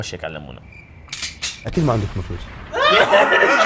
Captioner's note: crickets chirping; laughter